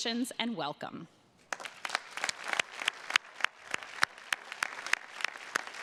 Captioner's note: attendees clapping